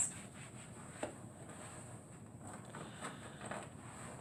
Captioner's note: wiping sounds